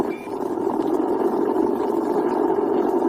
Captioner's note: radio static continues; beep